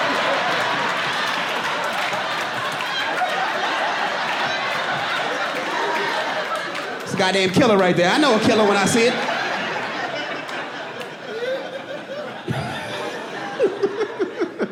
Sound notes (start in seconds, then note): 7.6 audience laughing; 10.8 laughs